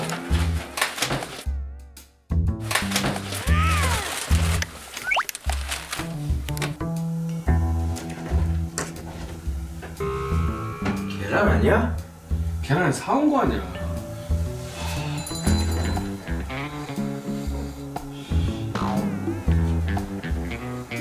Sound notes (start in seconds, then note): 5.0 scratch Scratch